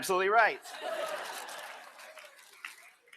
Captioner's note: laughter